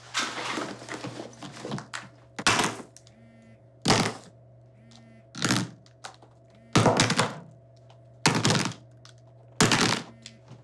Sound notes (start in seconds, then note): 0.3 phone buzzing; 1.9 phones clattering